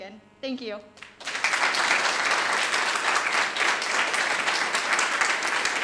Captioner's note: audience applauding